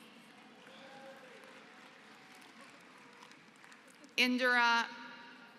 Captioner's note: applause